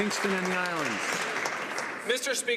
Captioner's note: some Applause